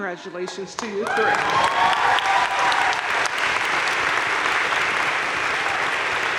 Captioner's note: crowd cheering and applauding